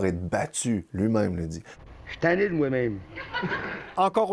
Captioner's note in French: rires